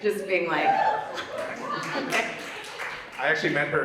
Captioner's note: audience cheers